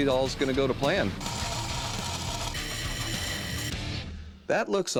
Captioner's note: tools whirring